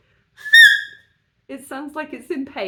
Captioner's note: high-pitched sqeak